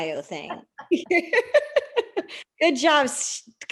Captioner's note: laughter